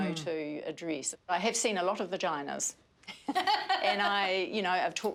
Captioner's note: laughing